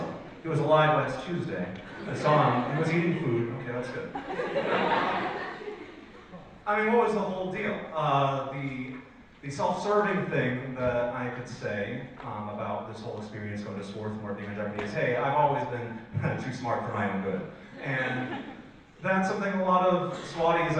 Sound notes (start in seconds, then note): 4.7 audience laughs